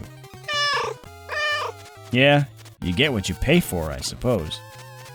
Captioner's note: meow, meow